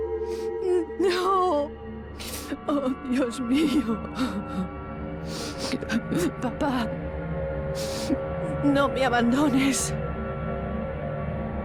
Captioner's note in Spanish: solloza